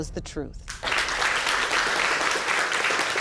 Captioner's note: applause